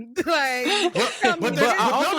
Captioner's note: laughing